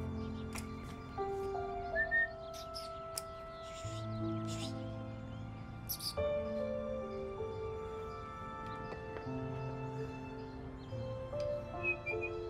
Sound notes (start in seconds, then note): 1.8 whistling; 3.8 chittering; 5.9 kiss noises